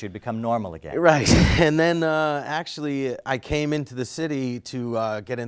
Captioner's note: laugh